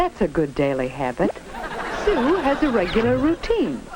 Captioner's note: audience laughs